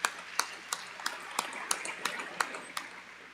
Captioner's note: audience applauding